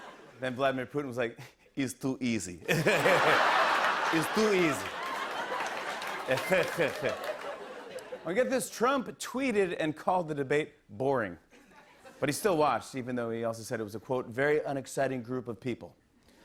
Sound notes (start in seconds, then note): 2.6 laughter; 5.9 laughs